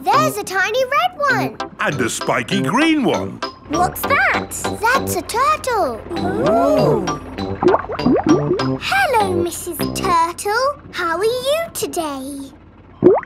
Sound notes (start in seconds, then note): 7.5 bubbling